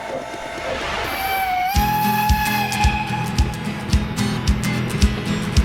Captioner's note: engines rumbling; train whistle tooting